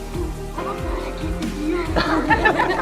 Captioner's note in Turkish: Gülüyorlar